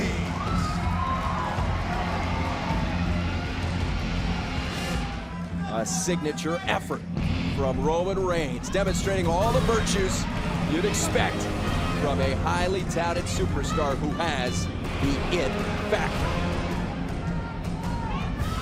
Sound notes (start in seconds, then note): 2.4 crowd cheering